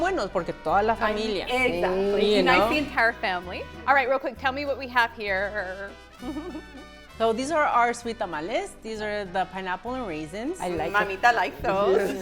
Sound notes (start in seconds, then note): 2.9 in Spanish